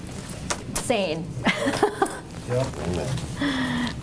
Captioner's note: chuckles